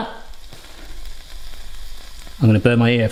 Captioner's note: pan sizzling